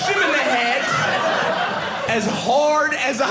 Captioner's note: audience laughing